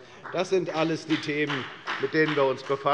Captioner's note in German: Beifall bei der FDP